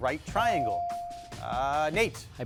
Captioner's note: bell chiming